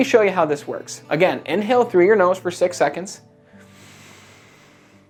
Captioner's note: inhaling